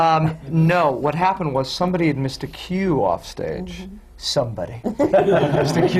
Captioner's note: laughter